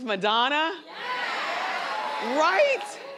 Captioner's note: crowd cheers